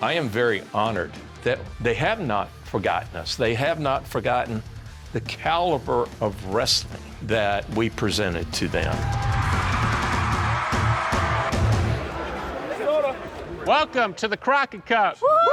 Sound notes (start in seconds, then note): 8.5 crowd cheering; 11.5 crowd chattering